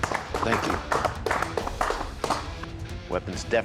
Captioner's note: clapping